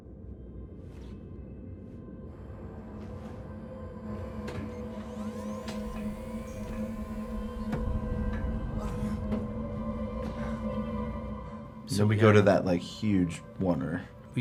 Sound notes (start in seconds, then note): 3.7 machines whir